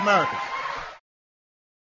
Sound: applause

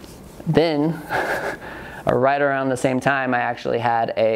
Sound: chuckles

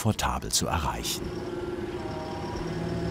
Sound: engine roar

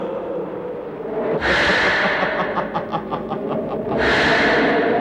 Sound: evil Laugh

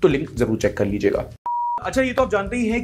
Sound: beep

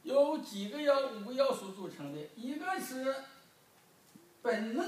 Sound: speaking foreign language

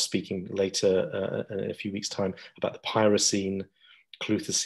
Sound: murmurs

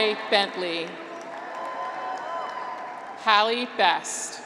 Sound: graduates cheer

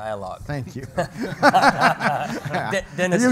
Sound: panel laughs

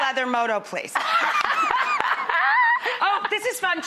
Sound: laughing

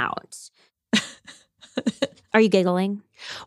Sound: laughs

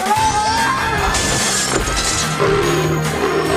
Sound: surprised screamy boi noises

